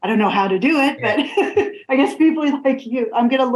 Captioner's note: laughs